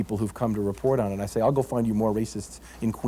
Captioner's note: none